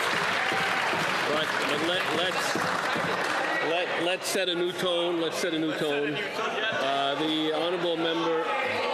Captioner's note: some Applause